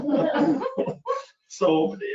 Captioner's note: laughs